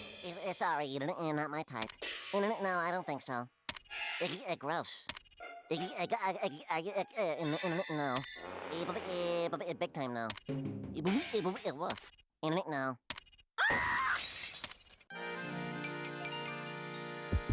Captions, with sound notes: [Porky stuttering] SORRY, NOT MY TYPE. NO. I DON'T THINK SO. GROSS. [stuttering] NO. BIG TIME NO. [stutters] NO. [screaming]